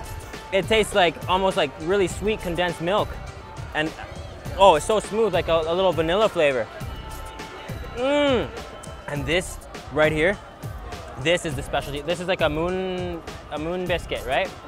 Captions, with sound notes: It tastes like, almost like really sweet condensed milk. And, oh, it's so smooth like a little vanilla flavor. (groans) And this right here. This is a specialty. This is like a moon biscuit right?